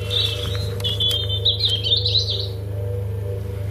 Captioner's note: birds chirping